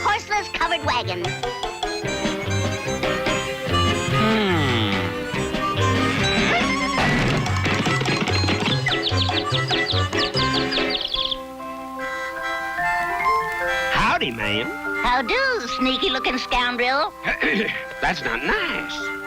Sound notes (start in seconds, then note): 8.7 hooves smash; 10.9 birds chirping; 12.0 enchanted chiming music